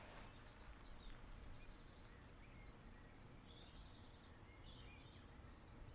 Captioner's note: birds continuing to chirp